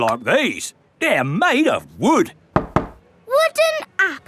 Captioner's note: knocks